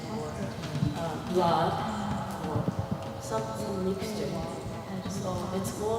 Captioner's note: Nori reciting